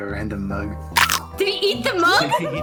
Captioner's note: chomp